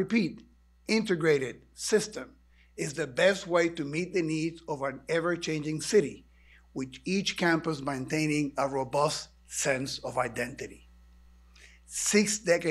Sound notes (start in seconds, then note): none